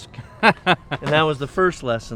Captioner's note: laughs